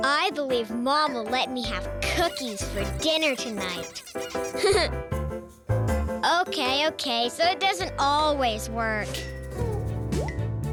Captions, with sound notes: I believe Mom will let me have cookies for dinner tonight. (laughs) Okay, okay, so it doesn't always work.